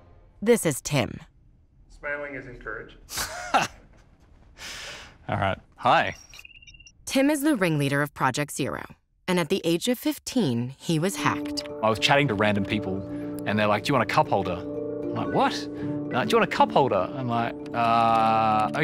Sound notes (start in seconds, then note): 3.1 laughs